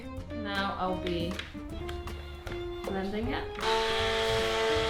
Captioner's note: blender clanking; blender whirring